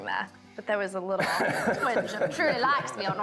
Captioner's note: Nick laughs